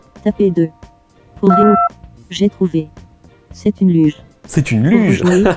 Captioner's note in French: son de touche de téléphone; rire